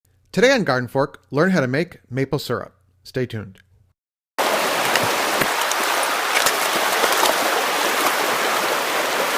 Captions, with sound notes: - Today on GardenFork, learn how to make maple syrup. Stay tuned. (water rushing) (splashing)